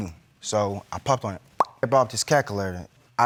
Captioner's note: pops